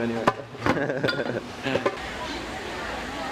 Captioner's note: laughing like stoned hippie bums